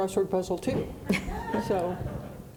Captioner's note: audience laughing